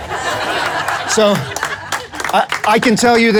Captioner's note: crowd laughing